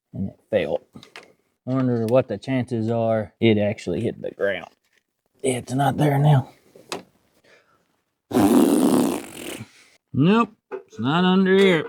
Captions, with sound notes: And it failed. I wonder what the chances are. It actually hit the ground. It's not there now. (Blowing) Nope, it's not under here.